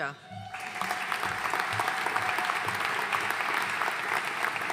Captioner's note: audience applauding